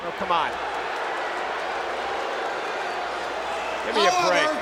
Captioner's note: crowd booing